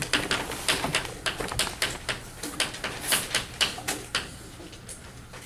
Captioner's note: chalk clicking on board